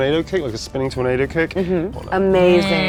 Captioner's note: speaks faintly